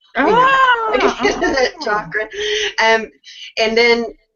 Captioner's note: laughs